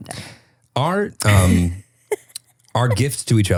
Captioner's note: laughing